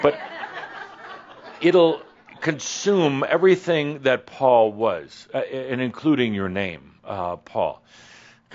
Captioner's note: some chuckles